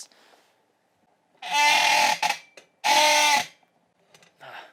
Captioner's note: creaking